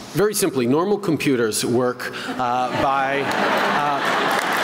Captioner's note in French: Rires, applaudissements